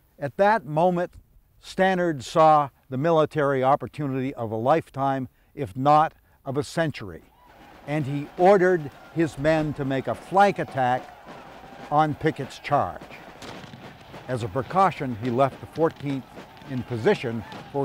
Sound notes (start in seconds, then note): 9.0 soldiers shout; 13.0 artillery explodes